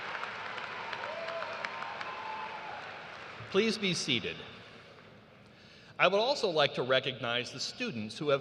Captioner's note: cheers and applause